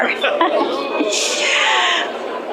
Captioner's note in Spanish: risas